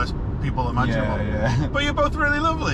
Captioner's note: chuckles